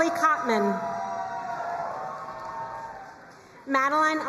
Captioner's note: crowd cheering and applauding